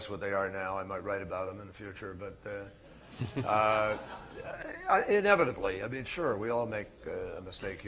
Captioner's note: laughter